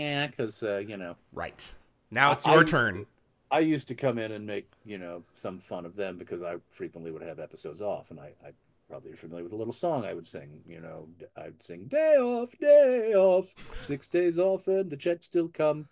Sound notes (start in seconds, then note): 1.0 mocking